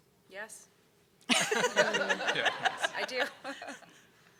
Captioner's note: people laugh